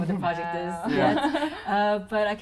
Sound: laugh

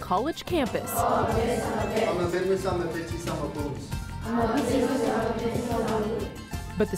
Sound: Latin speaking

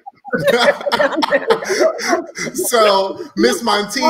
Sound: all laughing

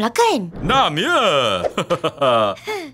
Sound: chuckles

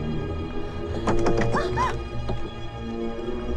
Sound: lamp rattles

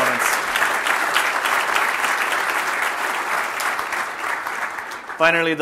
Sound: applause

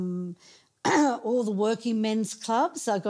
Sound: clearing throat

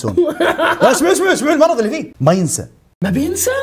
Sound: laughs

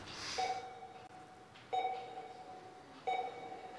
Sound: beeping

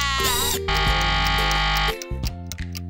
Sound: buzzer ringing

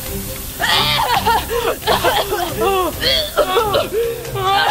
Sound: both coughing

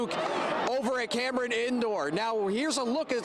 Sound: cheering

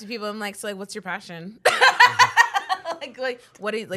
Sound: laughs

